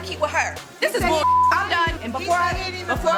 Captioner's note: beep sound